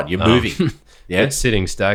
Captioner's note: laughs